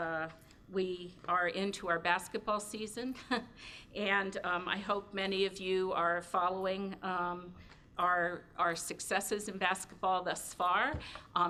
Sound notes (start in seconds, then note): 3.0 chuckles